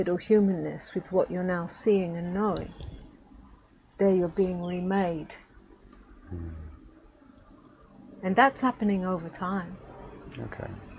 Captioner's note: mmm